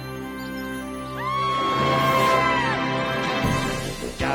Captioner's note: screaming